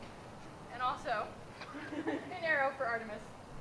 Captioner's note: laughter